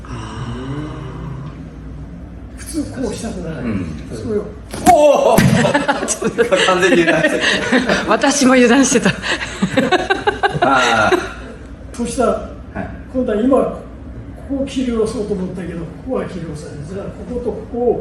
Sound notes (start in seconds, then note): 7.6 laughs